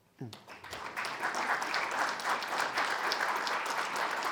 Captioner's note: attendees applauding